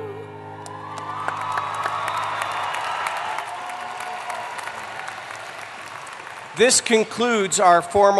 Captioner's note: applause